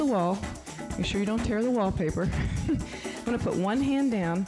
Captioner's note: laughs